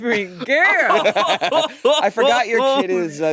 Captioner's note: both laughing